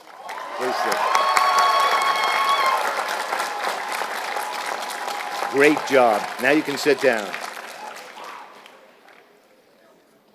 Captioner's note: applause